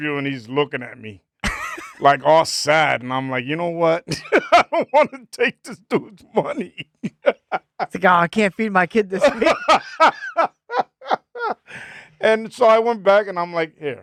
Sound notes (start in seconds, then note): 9.1 laughing